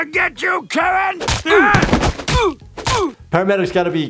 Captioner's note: laud thumping; man grunting